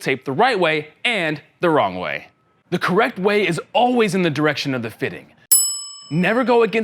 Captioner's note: ding ding